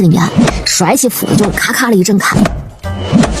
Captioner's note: thwack-thwack